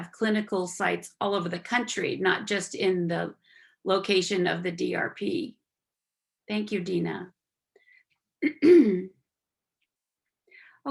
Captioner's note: clearing throat